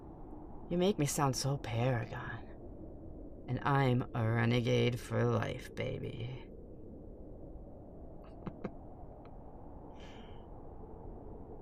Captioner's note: chuckle